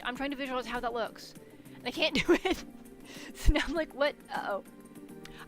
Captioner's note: laughs